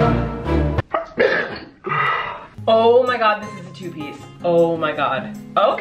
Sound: sneezes

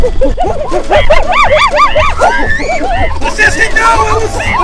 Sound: gorilla sounds

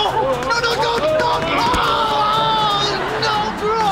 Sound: groaning

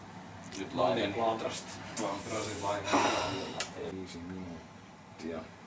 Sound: sigh

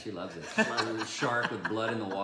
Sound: laughing

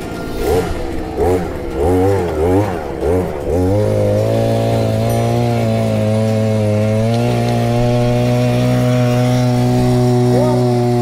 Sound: running motor

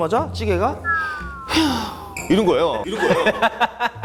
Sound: sighing of being relieved

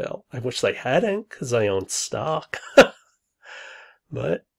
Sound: laughs

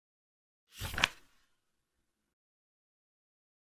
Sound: A sound of a page turning

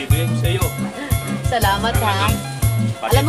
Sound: laughs

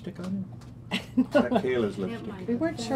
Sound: laughing

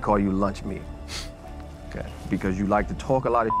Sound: snorts softly

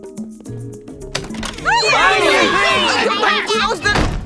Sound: door opening; yelling; door slams

